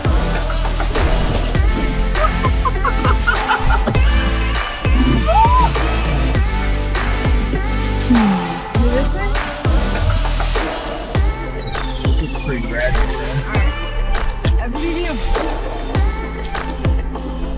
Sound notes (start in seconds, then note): 0.3 high energy electronic music; 2.4 laughs; 4.4 high energy electronic music; 8.1 background music drowns out other sounds